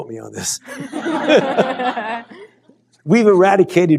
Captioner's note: laughter